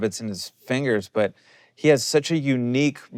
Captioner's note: none